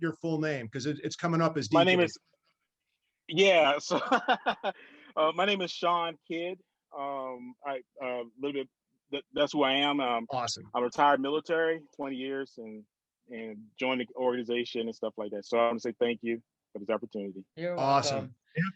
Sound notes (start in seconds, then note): 3.9 laughs